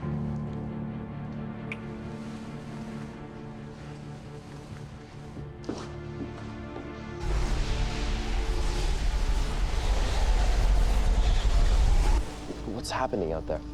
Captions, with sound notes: [wind blowing] What's happening out there?